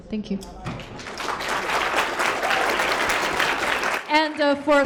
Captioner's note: applause